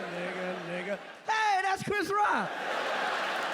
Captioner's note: yells excitedly; audience laughing and clapping